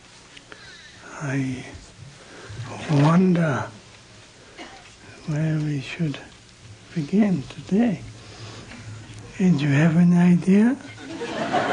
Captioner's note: laughter